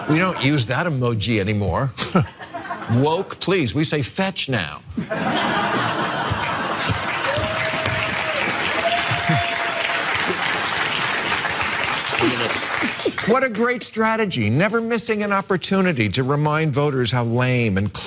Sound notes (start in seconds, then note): 0.0 laugh; 6.2 applause; 6.5 laugh